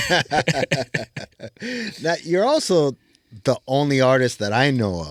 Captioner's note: laughing